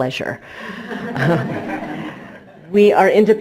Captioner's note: crowd chuckles